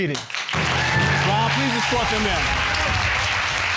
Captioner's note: audience applauding